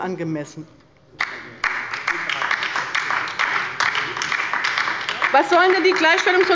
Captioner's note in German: Beifall bei der LINKEN und Abgeordneten der SPD